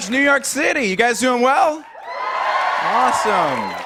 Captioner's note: cheers